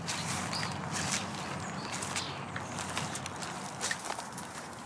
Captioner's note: leaves crunching